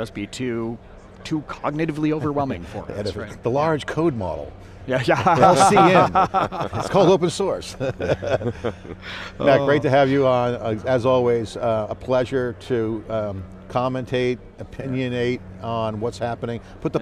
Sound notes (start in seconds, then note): 5.1 laughs; 8.0 laughing